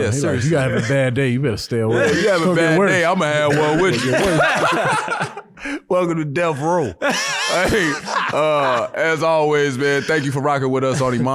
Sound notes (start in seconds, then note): 3.3 laughs; 7.0 laughing